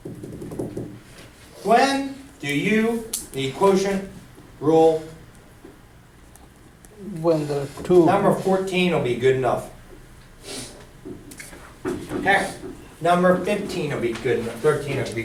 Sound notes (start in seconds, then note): 7.5 voiceover